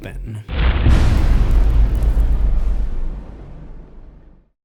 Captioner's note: impact